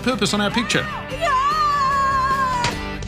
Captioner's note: screaming, fleshy squelch